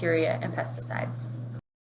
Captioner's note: water running